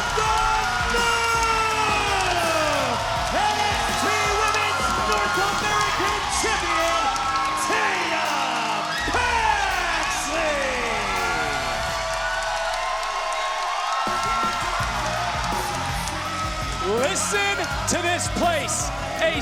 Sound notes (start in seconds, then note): 11.1 crowd cheers; 11.1 metal music